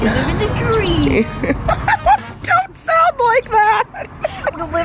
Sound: laughs

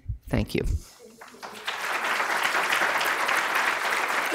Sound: audience applause

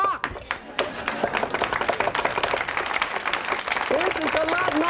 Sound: audience applauding

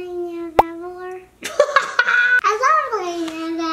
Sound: laughter

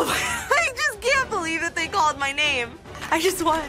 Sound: laughs

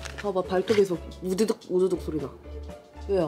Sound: crazy sounds from her scratching

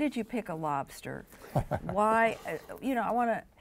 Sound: chuckles

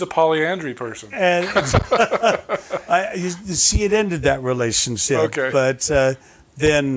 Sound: chuckling

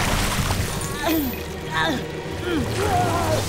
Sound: grunting; groaning

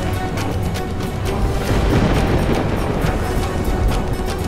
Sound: thunder rumbling

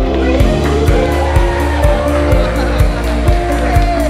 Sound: group cheers; light upbeat music

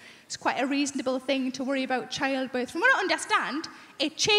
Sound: none

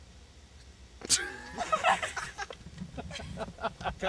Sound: laughs

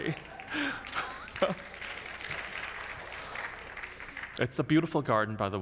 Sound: audience laughs; audience applauds; laughs

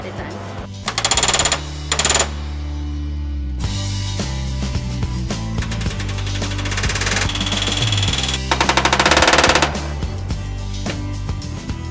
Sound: riveting sounds and music

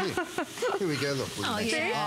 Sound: laughter

